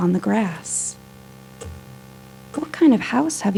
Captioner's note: continous ticking